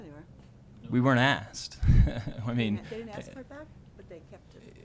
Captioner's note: chuckles